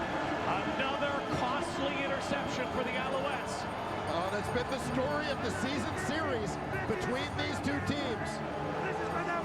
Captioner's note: cheering